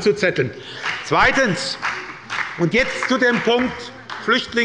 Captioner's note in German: Beifall bei der SPD und der FDP